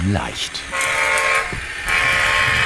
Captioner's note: honking, rattling